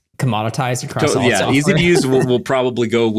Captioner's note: chuckling